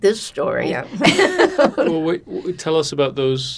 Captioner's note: laughing